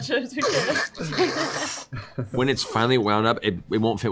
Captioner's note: squishing